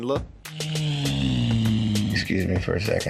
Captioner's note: moose bellows